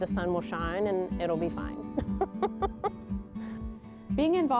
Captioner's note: laughs